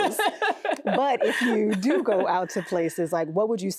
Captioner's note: laughing